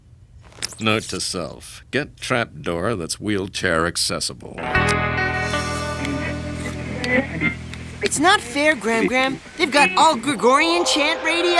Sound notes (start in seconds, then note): 6.0 radio tuning